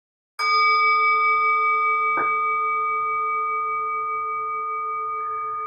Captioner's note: chime sounds